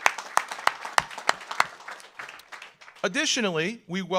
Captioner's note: audience applauds